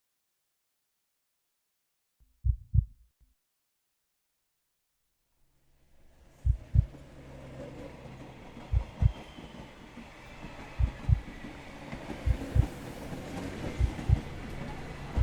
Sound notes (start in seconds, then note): 2.4 heartbeat continues; 6.2 ambient city sounds: trains, cars, crowds